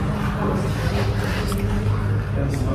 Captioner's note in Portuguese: sussurra